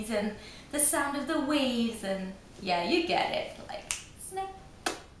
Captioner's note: snap